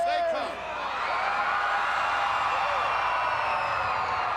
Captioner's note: crowd cheering